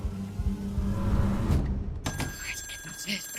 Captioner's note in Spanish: Suena el teléfono